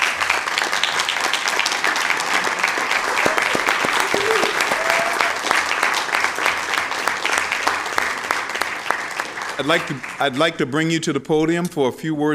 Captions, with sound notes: TO YOU PASTOR CASH AND DON JOHNSON. JOHNSON. [APPLAUSE] [APPLAUSE] I WOULD LIKE TO BRING YOU TO